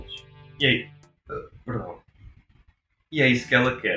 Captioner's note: burp